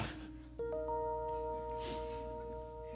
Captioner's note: Amazon Alexa noise